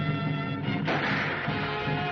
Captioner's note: exciting music; gunfire continues